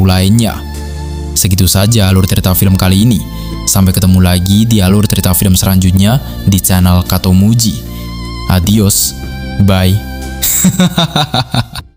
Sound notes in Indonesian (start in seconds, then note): 10.4 tertawa